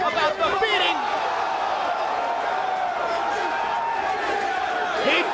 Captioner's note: crowd cheering